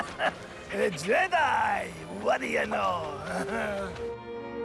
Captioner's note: chuckles